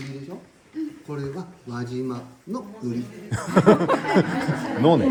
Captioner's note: laughs